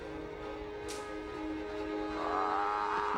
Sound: growls

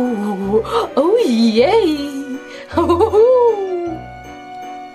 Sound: moans spookily

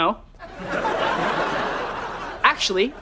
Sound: laughing

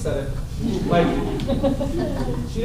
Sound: laughter

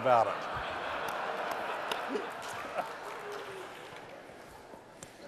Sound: laughter

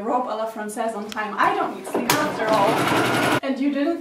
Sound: aggressive sewing

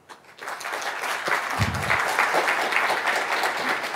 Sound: audience applauding

